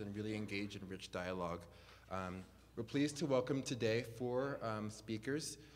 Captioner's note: none